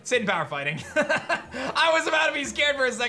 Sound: laughs

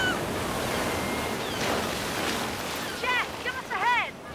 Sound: Kiki cawing; waves crashing

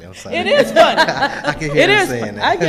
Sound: laughing

